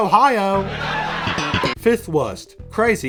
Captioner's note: laughter